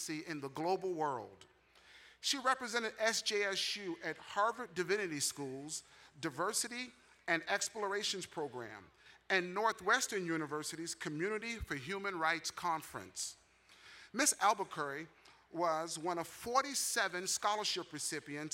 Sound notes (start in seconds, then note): none